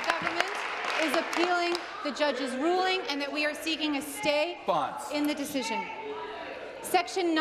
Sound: applause

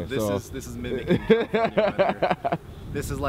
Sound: laughter

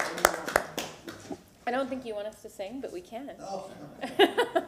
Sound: applause

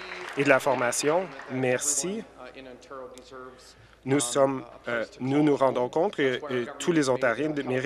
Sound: some Applause

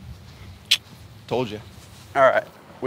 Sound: clicks tongue

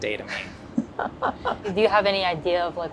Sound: both laugh

